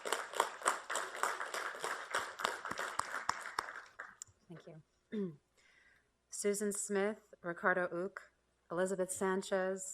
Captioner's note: applause